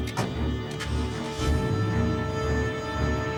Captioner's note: engine starting